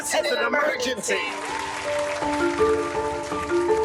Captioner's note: audience applause; light music